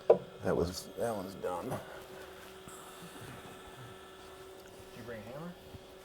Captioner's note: machine hums